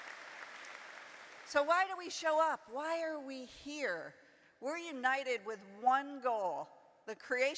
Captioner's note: applause